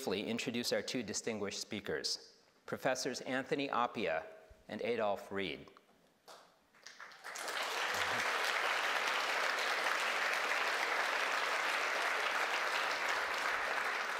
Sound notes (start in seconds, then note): 6.7 audience applauding